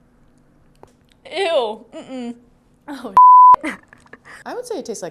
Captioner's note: beep